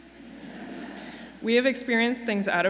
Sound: graduates laugh

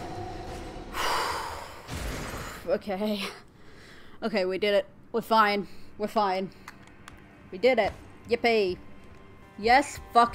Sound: exhale

